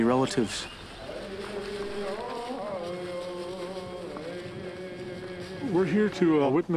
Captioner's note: people chanting in foreign language